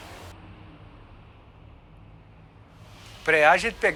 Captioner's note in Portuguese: Som de tráfego na marginal